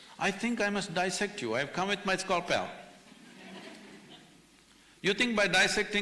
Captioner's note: few laugh